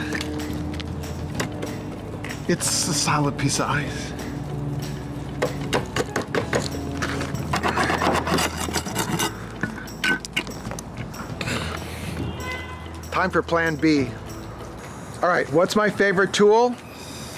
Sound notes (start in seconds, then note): 5.4 tapping; 7.0 scraping